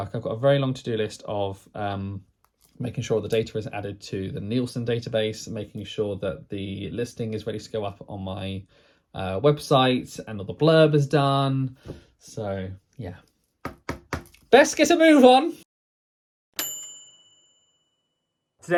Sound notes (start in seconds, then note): 13.6 pen tapping; 16.6 bright bell dinging